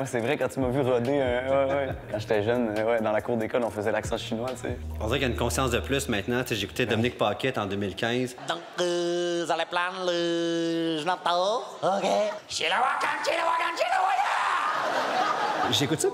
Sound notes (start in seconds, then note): 8.5 comments with incomprehensible Chinese accent; 12.7 laughs